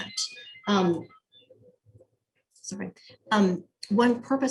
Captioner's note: phone rings